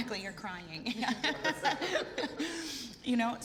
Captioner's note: laughing